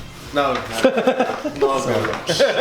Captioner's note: laughs